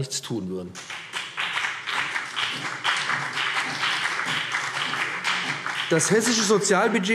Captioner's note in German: Beifall BÜNDNIS 90/DIE GRÜNEN und CDU